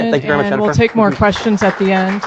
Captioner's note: applause